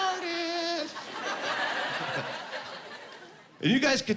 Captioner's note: laughing